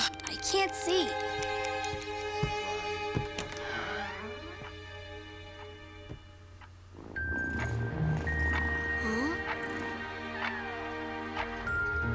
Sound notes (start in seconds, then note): 3.0 door opening; 6.9 calm music